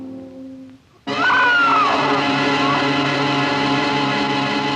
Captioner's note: scream